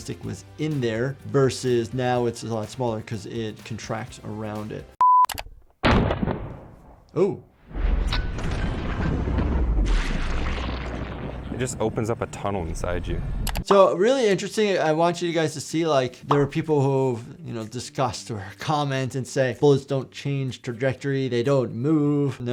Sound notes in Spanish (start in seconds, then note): 5.2 clic; 5.9 estallidos de disparos; 13.4 clic